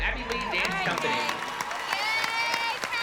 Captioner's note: applause